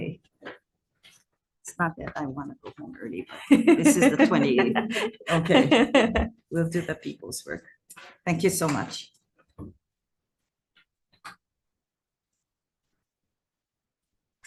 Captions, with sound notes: (laughing) This is the 28th. Okay. We'll do the people's work. Thank you so much.